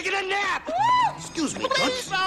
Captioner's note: woman Screams